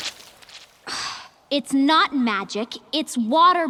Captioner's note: Katara exhales